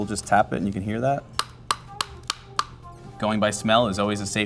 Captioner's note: shells smashing